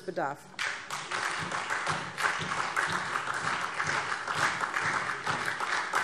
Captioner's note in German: Beifall SPD